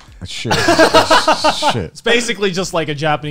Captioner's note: laugh